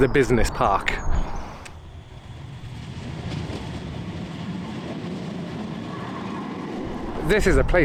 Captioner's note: sound of tram